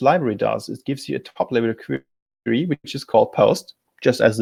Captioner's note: distortion muffles speaker